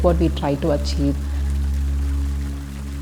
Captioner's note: water pouring